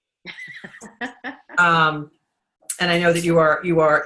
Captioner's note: laughing